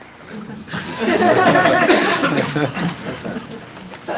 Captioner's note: laughter